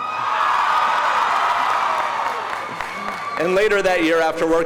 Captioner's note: audience cheering